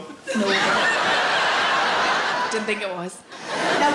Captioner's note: audience laughs